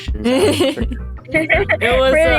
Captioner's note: laughs